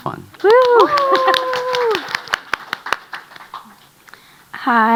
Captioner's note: audience applauding